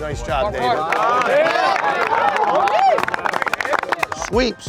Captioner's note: cheers